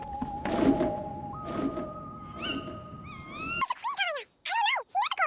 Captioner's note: owl flies away